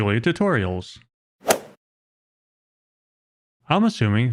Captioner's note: golf ball hit sound effect